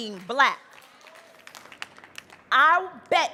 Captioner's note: audience applauding